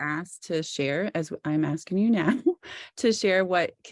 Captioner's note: chuckles